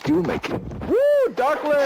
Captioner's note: camera shuffling